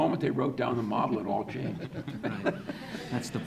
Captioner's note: audience laughing